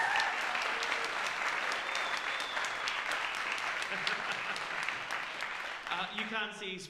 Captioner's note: applause